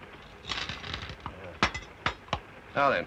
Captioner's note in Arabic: مكعبات السكر تتناثر